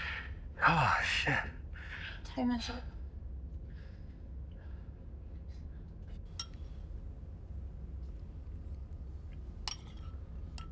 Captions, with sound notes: Oh, shit. - What time is it? (spoon clinking)